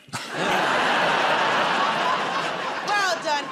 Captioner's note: laughter